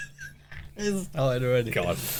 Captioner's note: laughing